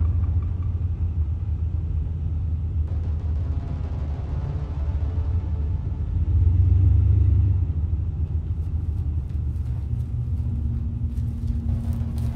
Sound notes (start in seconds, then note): 8.2 footsteps pattering